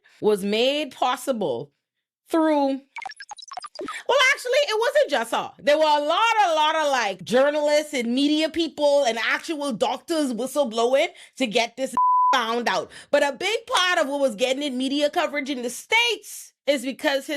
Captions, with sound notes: was made possible through... Well, actually it wasn't just her. There were a lot, a lot of like journalists and media people and actual doctors was so blow it to get this (beep) found out. But a big part of what was getting in media coverage in the States is because